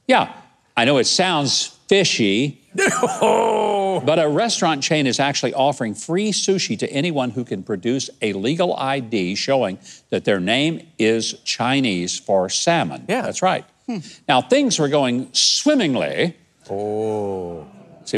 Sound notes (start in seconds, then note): 2.7 guest laughs